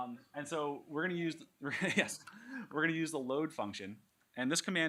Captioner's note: laughs